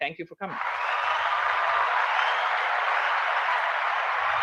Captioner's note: applause